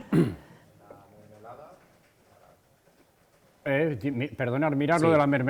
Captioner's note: laughs